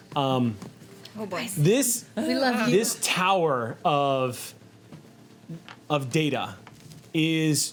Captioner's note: none